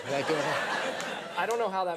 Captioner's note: audience laughs